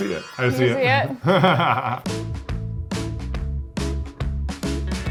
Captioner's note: laughing